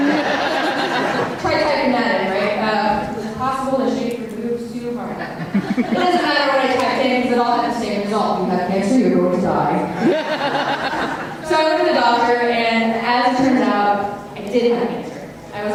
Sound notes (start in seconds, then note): 5.4 audience laughter; 9.9 audience laughter